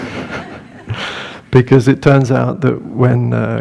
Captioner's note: laughter